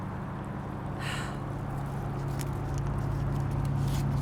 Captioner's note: engine whirring